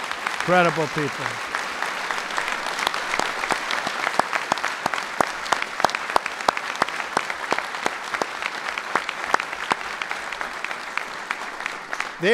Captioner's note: applause